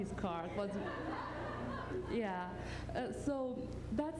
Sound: laughter

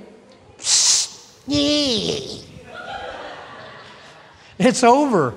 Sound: sprays

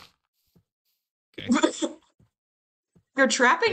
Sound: strangled laugh

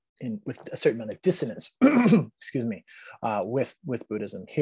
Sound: clearing throat

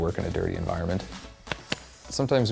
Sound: mopping sound

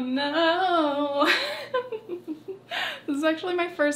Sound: chuckles

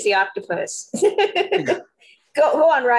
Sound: laughing

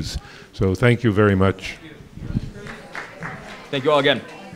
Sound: audience applause

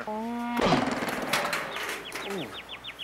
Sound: birds chirping

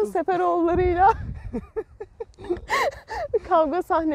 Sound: laughings

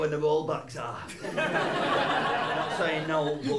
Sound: laughter

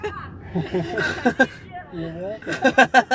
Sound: laughter

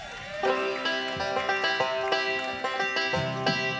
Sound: cheering; lively bluegrass music

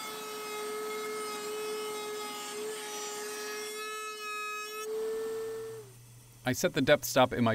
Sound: router running

